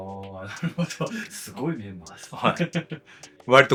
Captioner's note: laughs